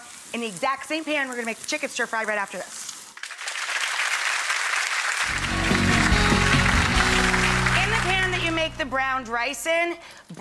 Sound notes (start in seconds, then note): 3.2 audience applauds; 5.2 upbeat music